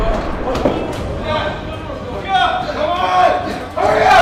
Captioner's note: men shouting